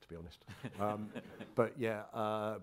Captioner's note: crowd chuckling